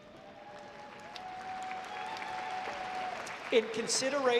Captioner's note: audience applauding